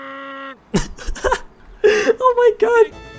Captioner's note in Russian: звуки умирающего тюленя